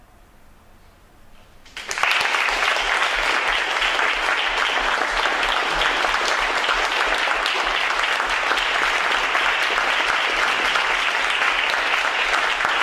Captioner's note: applause